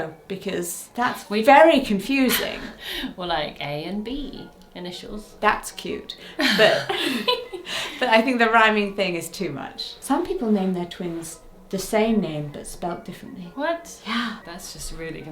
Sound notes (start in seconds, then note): 6.3 both chuckle